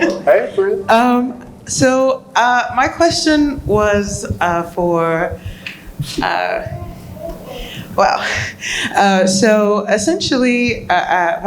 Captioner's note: laughs